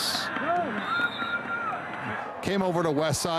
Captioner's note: referee blows whistle